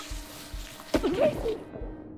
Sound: splash

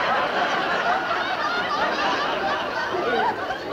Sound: laughter

